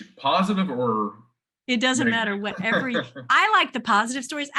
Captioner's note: laughs